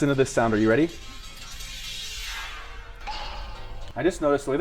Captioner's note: metal sliding